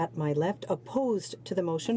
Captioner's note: speaking in french